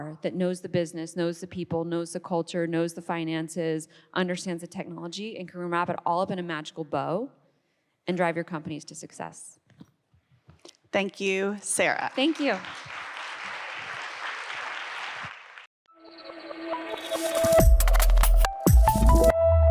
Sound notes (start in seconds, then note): 11.8 audience applauds; 16.0 upbeat futuristic music